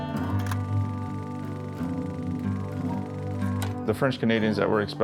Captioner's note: film reel clacking